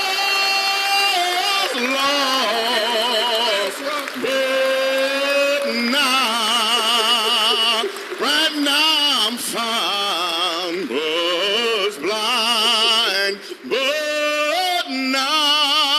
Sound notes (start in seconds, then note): 1.9 applause